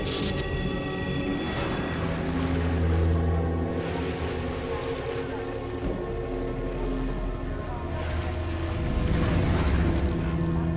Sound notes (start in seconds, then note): 1.8 water splashing